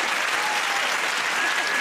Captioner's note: applause; whistles